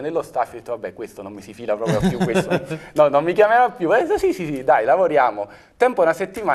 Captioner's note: laugh